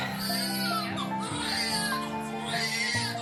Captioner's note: baby crying